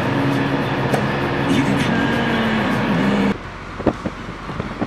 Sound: radio playing

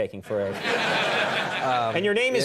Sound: audience laughs

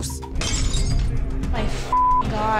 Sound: glass shatters

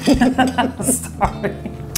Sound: laughs

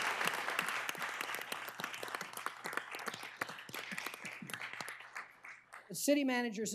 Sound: applause

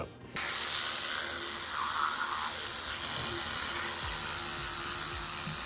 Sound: toothbrush vibrating

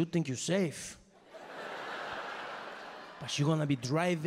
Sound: audience laughing

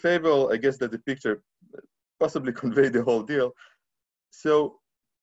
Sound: laughing

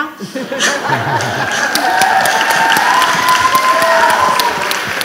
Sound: audience applauding

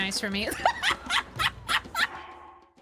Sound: laughter

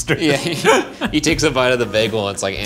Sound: laughing

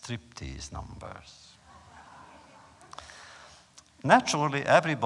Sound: laughter

